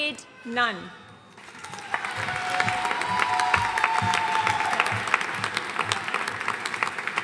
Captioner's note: audience cheering and applauding